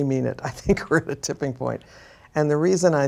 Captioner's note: laughs